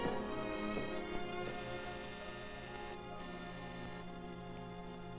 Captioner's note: doorbell ringing